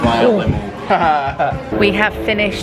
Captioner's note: chuckling